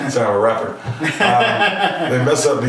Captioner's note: laughing